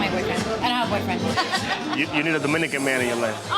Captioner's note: laughs